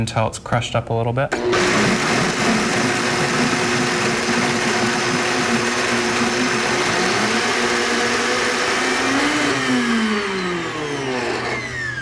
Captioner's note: blending Sound